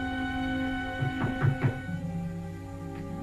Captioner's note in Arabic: طرق الباب